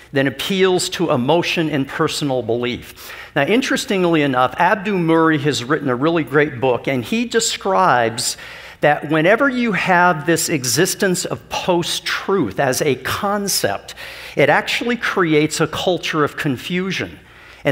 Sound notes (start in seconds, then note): none